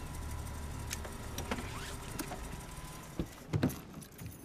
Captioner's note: engine shuts off